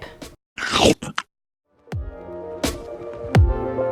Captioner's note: chomping